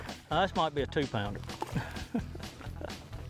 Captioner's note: laughing; upbeat country music